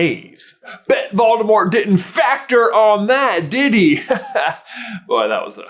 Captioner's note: chuckles